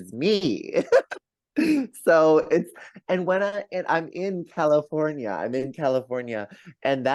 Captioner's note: laughs